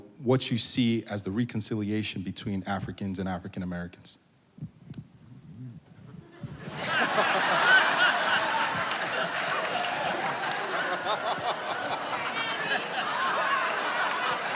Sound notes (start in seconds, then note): 6.0 laughing; 6.4 audience laughing